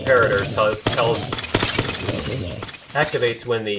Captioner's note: splat